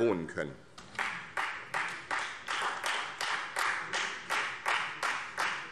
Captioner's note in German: Beifall Freie Demokraten